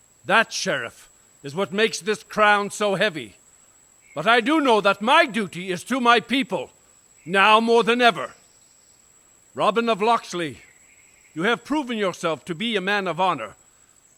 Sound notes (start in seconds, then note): none